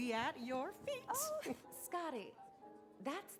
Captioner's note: chuckles